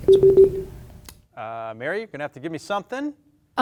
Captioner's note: beep